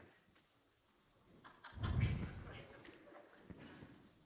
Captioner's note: soft laughter from the audience